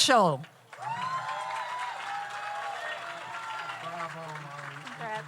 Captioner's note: audience applauds; audience cheers